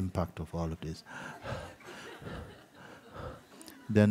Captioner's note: sound of labored breathing